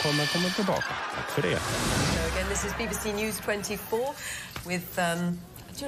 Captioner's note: laughing